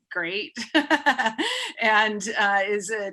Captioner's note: laughing